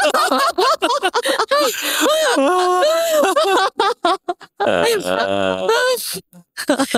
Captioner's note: laughing